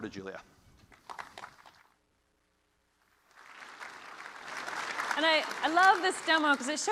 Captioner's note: applause